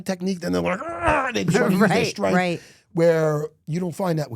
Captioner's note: groans